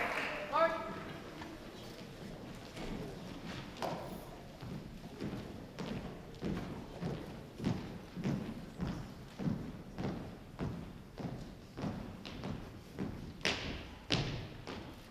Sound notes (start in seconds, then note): 4.7 marching footsteps